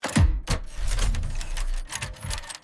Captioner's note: epic Mechanical Sound Start; engine Revving & Metal Shifting Sounds